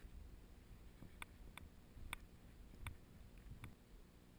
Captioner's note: sounds of walking